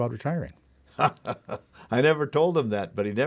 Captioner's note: laughing